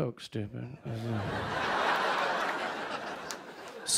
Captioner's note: laughter